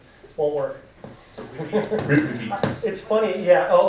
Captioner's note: laughing